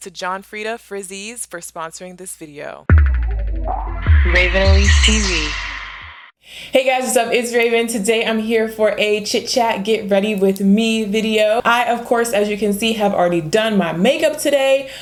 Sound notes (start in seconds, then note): 4.2 electronic Voice